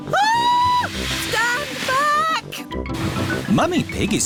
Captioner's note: shrieks